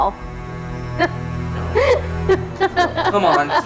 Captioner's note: Thea laughing